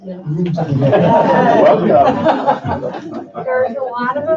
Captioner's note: laughing